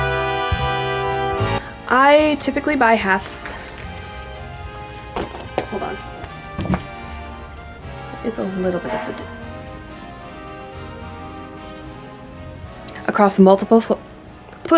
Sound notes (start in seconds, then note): 9.0 loud honk